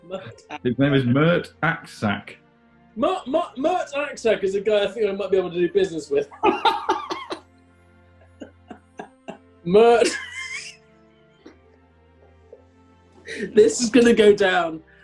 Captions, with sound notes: HIs name is Mert Aksac. Mert Aksac is a guy I think I might be able to do business with. [LAUGHTER] Mert... [LAUGHING] This is gonna go down...